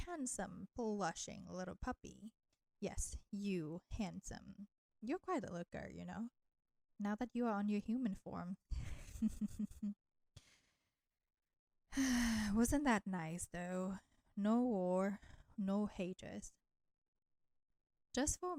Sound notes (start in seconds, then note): 11.9 sigh